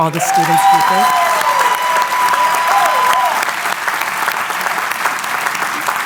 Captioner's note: applause